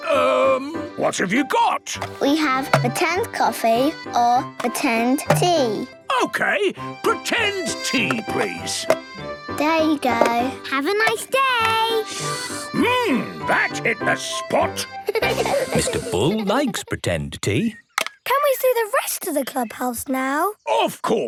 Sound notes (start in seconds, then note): 12.4 slurping; 15.0 giggling